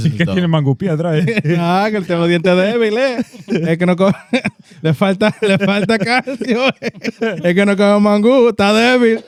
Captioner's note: speaking In Foreign Language